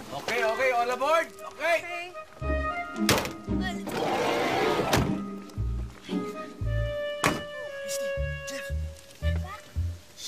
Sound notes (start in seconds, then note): 3.8 door closes